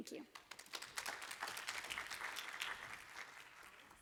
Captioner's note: applause